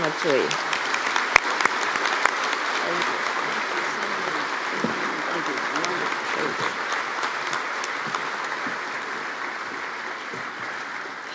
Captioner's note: applause